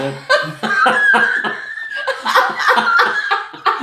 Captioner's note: laughing